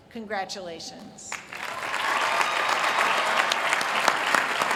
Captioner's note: applause